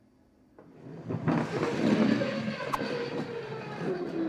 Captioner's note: puck sliding